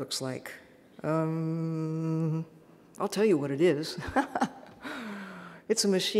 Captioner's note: laughs